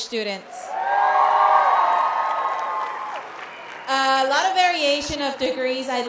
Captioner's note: cheers